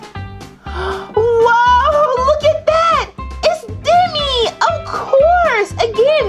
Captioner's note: gasps